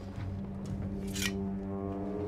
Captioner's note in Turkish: Bıçak sesi; Müzik - Gerilim